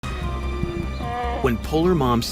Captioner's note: bear cub howling; light dramatic music